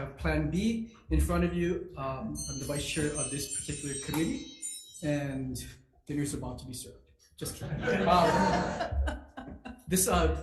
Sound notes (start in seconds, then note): 2.3 bells chime; 7.6 audience laughs